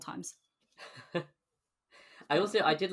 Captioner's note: laughs